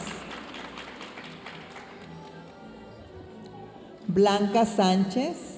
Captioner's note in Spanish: aplausos de la audiencia